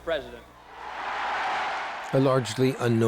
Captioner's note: loud cheers